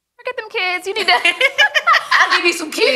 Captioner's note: ladies laughing